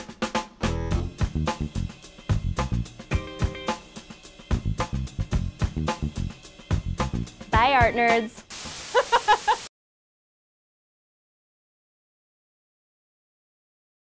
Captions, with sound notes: (up-tempo, funky music) Bye, art nerds. (TV static) (laughs)